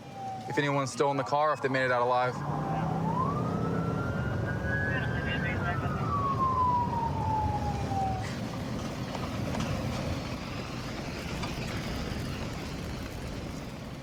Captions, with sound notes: if anyone's still in the car, if they made it out alive. [police sirens blaring] [dispatch chatter]